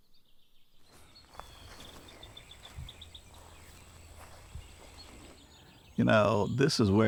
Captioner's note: birds tweet